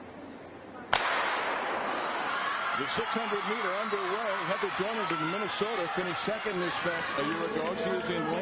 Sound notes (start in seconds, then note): 0.9 gun fires